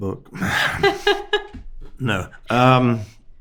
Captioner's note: host laughing